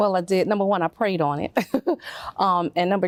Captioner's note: chuckles